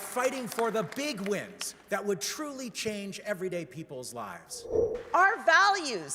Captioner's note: applause